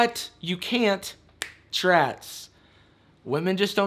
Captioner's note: person snaps finger